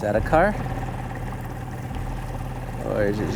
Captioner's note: engine chugging; water sloshing